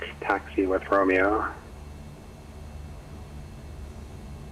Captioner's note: louder engine sound